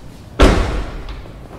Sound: door shuts

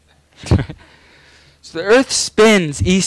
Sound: laughing

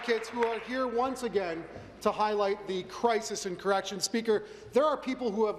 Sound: applause

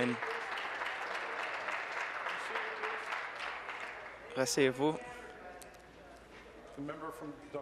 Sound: applause

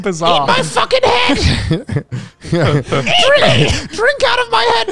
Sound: squawks

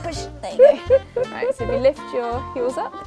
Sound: laughs

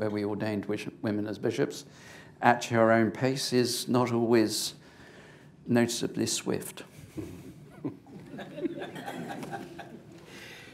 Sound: laughter

